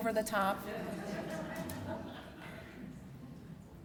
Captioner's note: laughter